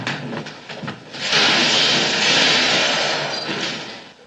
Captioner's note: crashes